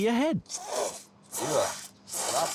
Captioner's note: loud slurping